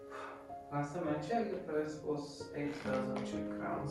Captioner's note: speaking in foreign language